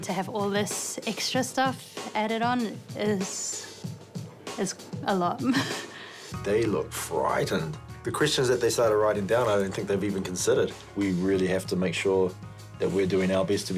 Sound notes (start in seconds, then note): 5.4 laughs